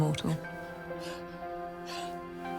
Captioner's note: Robyn panting